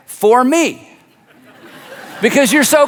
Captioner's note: audience laughs